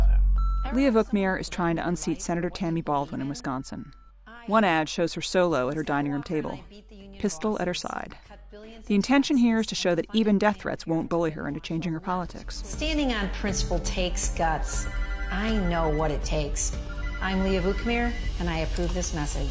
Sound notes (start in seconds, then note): 16.4 telephone ringing